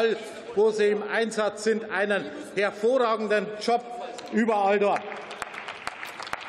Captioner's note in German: Beifall